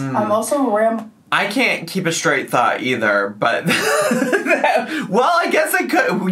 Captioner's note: laughs